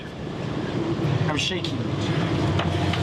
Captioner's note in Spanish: en inglés